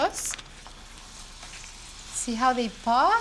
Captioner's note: sizzling